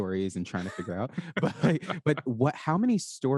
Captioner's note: all laugh